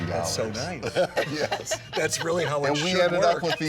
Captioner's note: all laughing